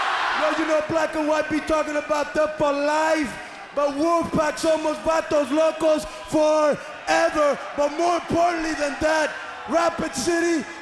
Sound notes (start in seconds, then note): 3.4 crowd chatter